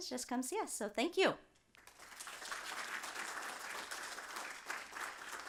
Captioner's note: applause